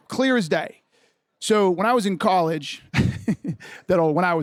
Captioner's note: laughs